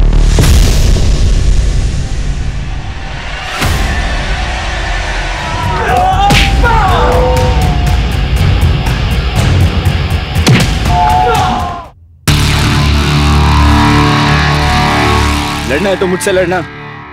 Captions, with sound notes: - [Roy groaning] - [Rahat screaming] Want to fight then, fight with me!